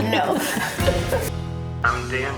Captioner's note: laughs